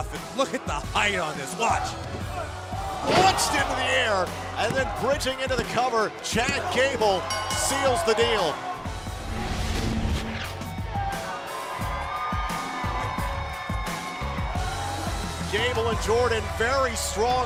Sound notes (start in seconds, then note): 9.8 bell ringing; 10.7 cheers and applause